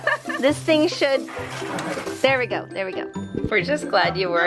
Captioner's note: mom laughing; water spurting